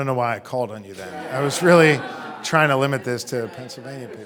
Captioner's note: audience laughing